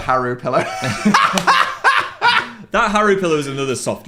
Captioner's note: laughs